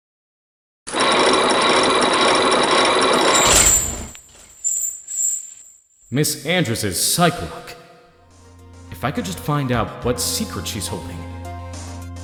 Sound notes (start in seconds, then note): 0.8 chains grinding!; 3.5 lock clacks!